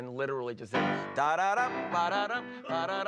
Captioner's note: vocalizing